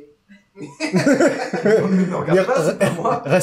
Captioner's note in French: rires